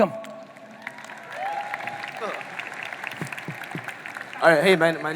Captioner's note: audience applauding